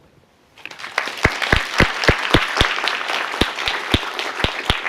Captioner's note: applause